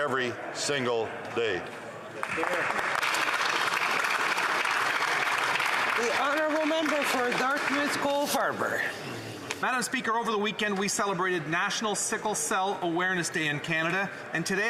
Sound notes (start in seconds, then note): 7.0 applause